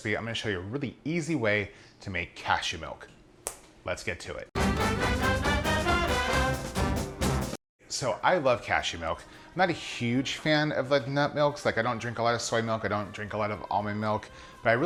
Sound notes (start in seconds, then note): 3.4 clicks fingers; 4.5 upbeat brass music